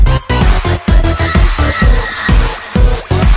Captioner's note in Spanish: gritos de horror